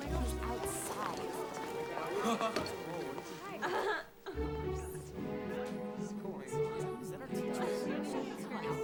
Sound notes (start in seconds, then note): 2.0 curious music; 2.0 students chattering